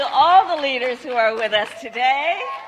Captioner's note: applause